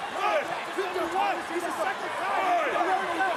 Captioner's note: wrestlers arguing